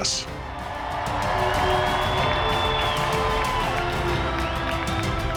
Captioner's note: graduates cheer